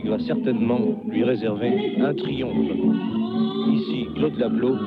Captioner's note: French spoken audio